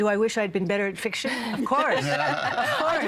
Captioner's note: all laughing